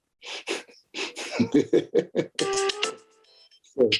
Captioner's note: chuckling